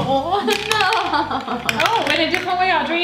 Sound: laughing

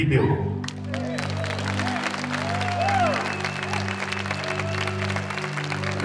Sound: crowd cheering and applauding

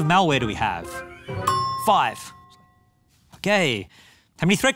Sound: bell dings

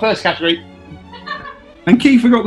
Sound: laughing

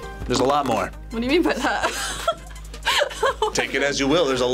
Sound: laughs

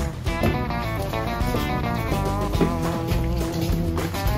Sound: rake clanking; boots clomping

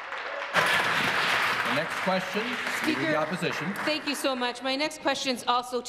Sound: some Applause

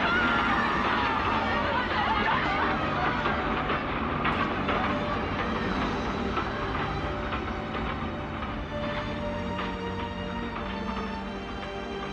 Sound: people yelling

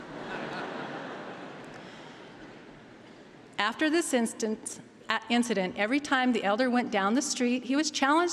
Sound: laughter

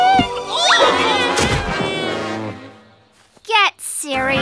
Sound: grunting

